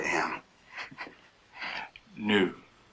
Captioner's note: chuckling